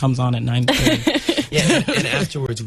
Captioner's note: interviewer laughs